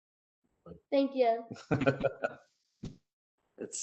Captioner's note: laughter